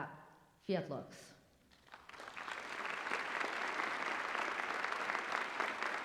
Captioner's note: applause